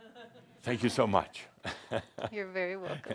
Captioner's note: Adamus chuckles